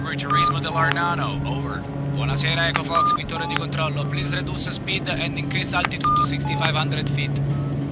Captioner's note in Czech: americký akcent; italský akcent